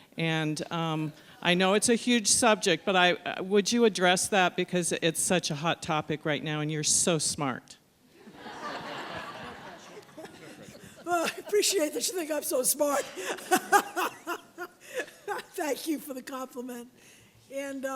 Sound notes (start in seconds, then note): 8.2 laughter